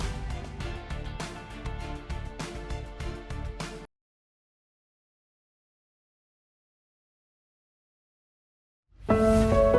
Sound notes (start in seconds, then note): 0.0 bright music; 5.6 silence